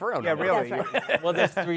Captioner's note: laughs